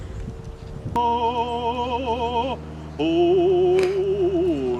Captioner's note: humming